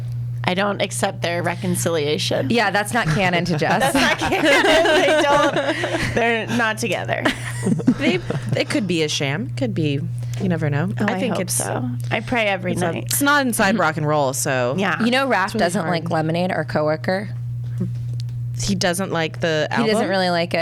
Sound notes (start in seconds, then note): 3.0 laughs